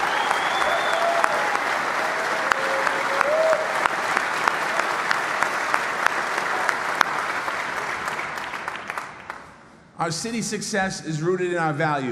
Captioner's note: applause